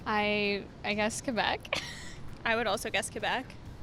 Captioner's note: laugh